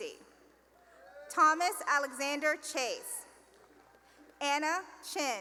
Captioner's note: cheering; cheering and applause